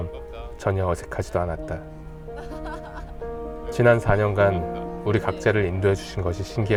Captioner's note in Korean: 웃음